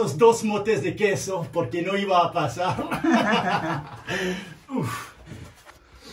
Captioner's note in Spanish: risa